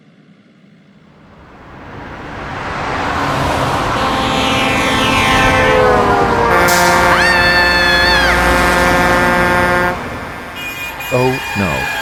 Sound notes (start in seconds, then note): 1.0 sound of trucks honking, braking; 6.1 sound of trucks honking, braking over phone; 7.2 woman screaming in fear over phone